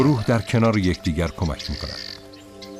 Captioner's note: squawking